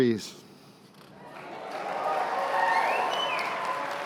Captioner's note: cheers and applause